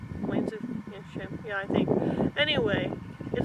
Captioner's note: wind